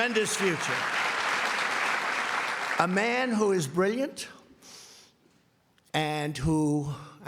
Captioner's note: applause